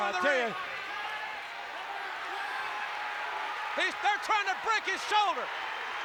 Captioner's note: applause